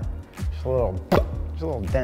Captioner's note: makes bop sound